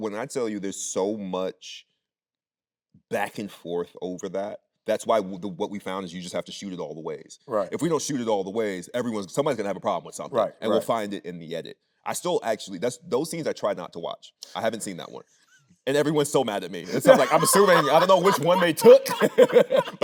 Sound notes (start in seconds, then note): 16.8 Anthony laughing; 19.8 both laughing